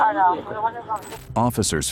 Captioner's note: radio chatter